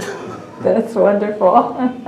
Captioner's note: laughter